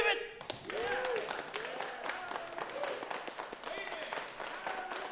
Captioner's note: crowd clapping